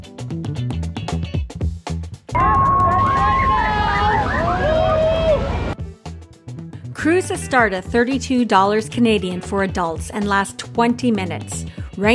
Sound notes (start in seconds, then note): 0.1 upbeat music; 2.3 crowd screams